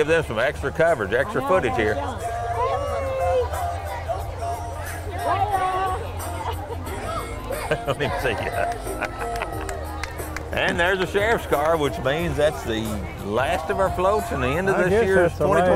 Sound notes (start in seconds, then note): 3.7 chattering and upbeat music continue; 6.1 laughs